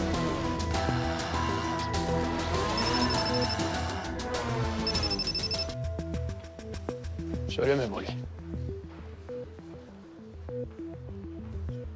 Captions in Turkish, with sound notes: (Telefon çalıyor) Söyle Memoli. (Gerilim müziği)